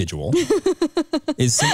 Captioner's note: chuckles